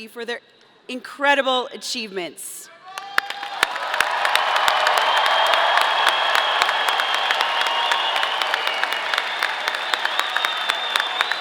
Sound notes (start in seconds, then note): 2.9 audience cheering; 2.9 audience applauding